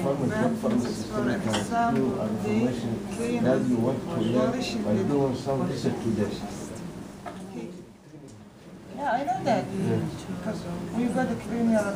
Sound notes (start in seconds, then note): 5.8 indistinct conversation